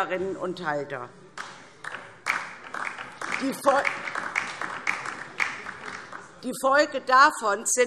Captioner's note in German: Beifall DIE LINKE